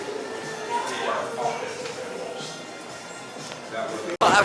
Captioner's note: smooth R&B music; people talking in restaurant